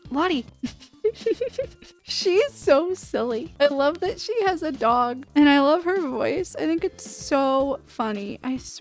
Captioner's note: laughter